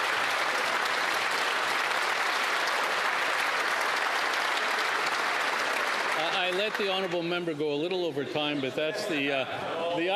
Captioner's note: applause